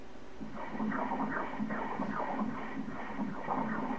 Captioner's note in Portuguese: som do coração